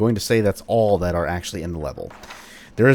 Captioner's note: journal closes